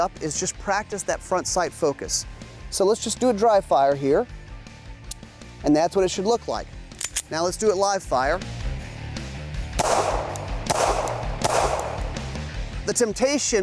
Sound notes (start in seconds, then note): 5.1 gun clicks; 6.9 gun loading sound; 9.8 gunshot